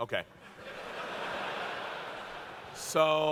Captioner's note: laughter